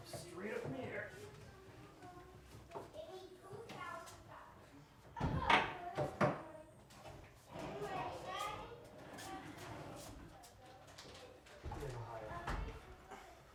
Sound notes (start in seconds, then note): 5.6 kids chattering